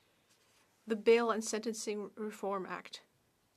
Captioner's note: speaking French